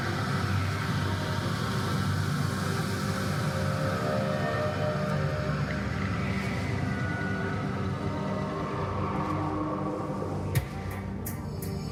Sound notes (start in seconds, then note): none